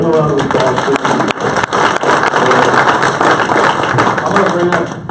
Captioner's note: audience applauds